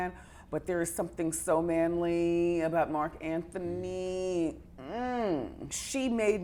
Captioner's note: groans